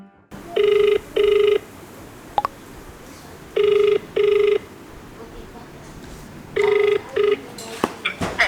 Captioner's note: dial tone